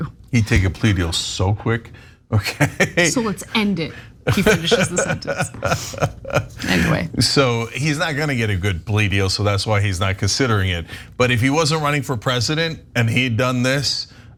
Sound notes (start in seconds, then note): 4.2 laugh